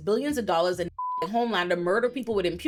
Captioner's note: beep